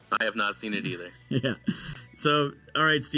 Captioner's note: laughs